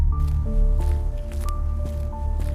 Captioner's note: heels click